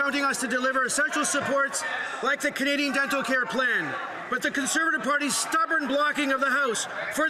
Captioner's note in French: voix de l'interprète